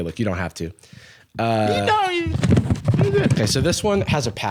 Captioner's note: mystery struggle sounds